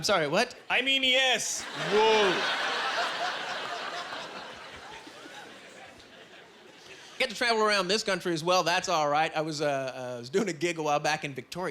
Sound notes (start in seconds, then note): 3.9 laughing